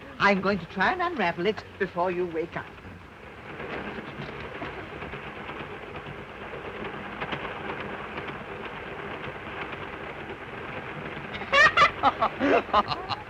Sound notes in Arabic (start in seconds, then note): 3.7 صوت خشخشة القطار; 11.3 يضحك الطفل